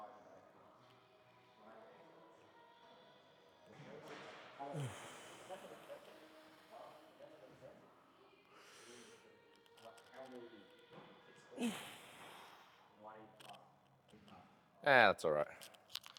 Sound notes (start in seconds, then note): 1.6 sighing